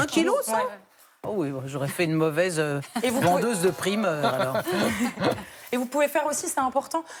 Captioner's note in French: rires